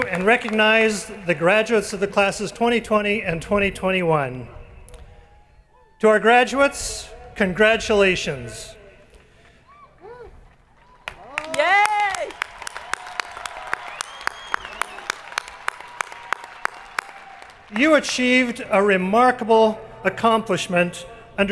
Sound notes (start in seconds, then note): 10.7 crowd applauding